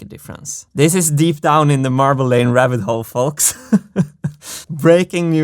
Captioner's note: laughs